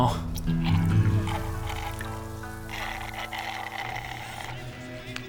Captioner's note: straw slurping